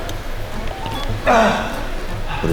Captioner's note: cracking his neck